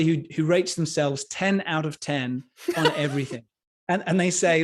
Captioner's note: laughs